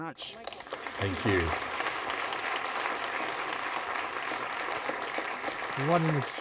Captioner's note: applause